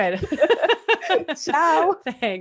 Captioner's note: laughs; foreign language